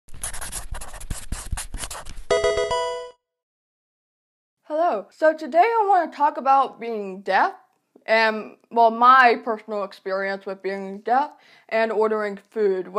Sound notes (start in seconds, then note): 0.1 marker scratching; 2.3 electronic video game chime